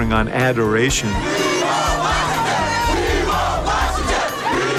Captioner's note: crowd chanting